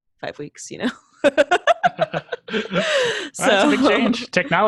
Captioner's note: laughs